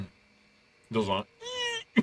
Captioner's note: creaking sound